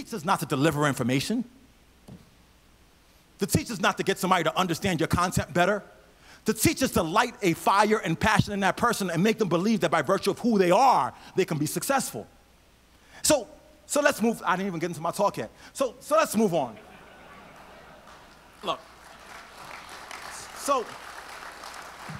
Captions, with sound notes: To teach is not to deliver information. To teach is not to get somebody to understand your concept better. To teach is to light a fire and passion in that person and make them believe that by virtue of who they are, they can be successful. So let's move, I didn't even get into my talk yet. So let's move on. (audience laughs) (audience applauds)